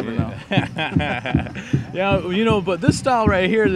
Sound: laughing

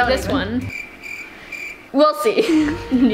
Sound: crickets chirping

